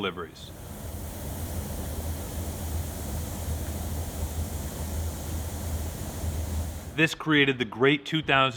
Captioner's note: rice flowing